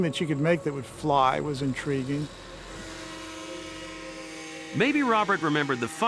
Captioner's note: motor buzzing